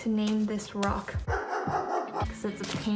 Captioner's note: coincident barking from neighbor’s dog